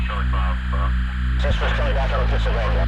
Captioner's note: officer On Radio